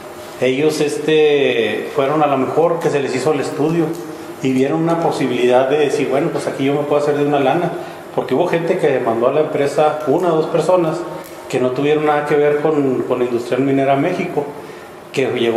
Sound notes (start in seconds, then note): none